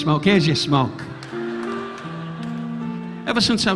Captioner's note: audience laughing